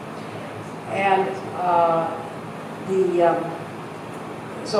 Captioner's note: voiceover